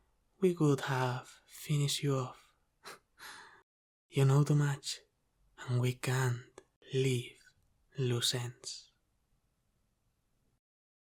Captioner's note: soft laugh